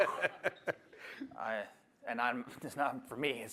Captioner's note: laughter